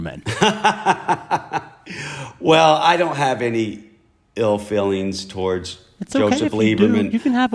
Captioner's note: laughter